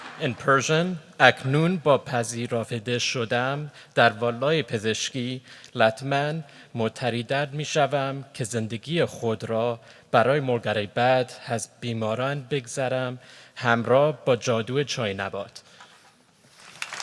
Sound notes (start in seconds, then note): 1.2 speaking persian; 16.6 applause